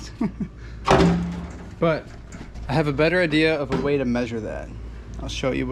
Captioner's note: haha